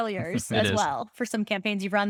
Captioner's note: laughing